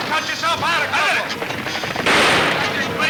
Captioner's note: gun firing